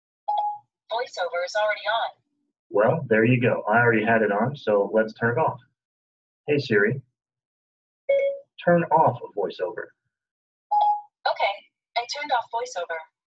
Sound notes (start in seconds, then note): 0.2 2nd tone sounds; 8.1 tone sounds; 10.7 tone sounds